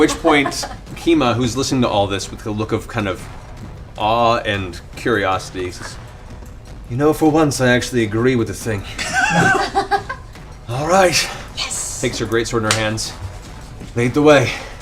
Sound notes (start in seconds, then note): 8.9 laughter